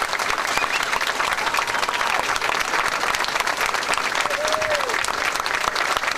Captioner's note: audience clapping and cheering